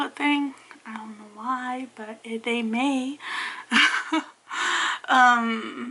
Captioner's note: laugs